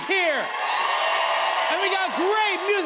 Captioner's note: cheers and applause